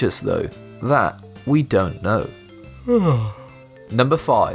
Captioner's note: yawns